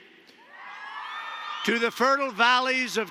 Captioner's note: applause